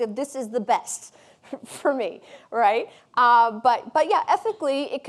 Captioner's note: chuckling